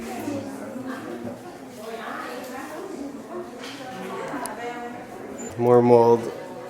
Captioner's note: crowd chatting in foreign language